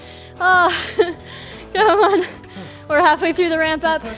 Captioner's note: breathes heavily